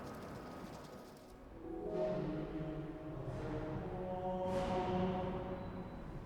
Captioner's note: sound of rain; backstage ambient sound